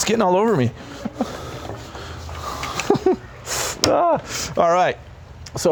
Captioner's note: laughs